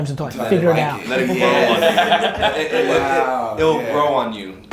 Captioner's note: group laughter